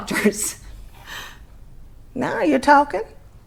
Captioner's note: she laughs